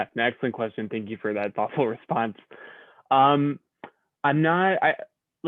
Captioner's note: laughter